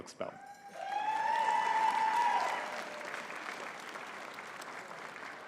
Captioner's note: audience cheering and clapping